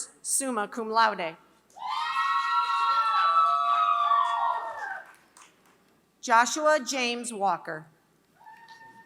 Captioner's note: applause; applause